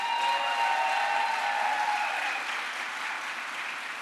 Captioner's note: crowd applause